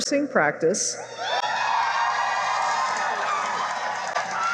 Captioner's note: cheering